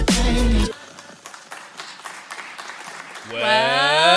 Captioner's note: clapping